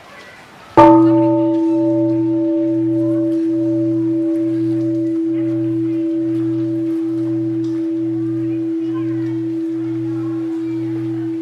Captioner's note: gong sound